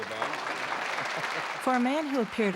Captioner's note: applause